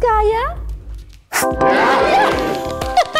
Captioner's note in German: Jubel, Lachen